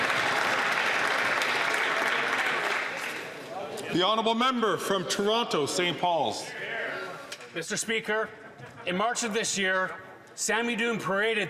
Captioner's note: some Applause